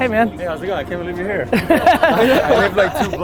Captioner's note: laughter